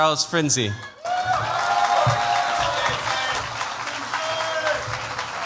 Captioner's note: cheers, applause